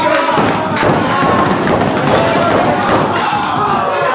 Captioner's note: feet stomping